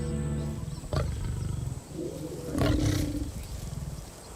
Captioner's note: lions roaring